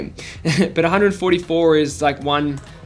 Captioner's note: giggles